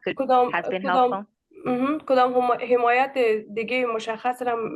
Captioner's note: speaking in Dari